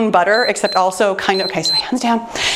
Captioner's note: timer beeps